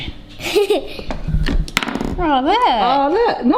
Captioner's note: giggles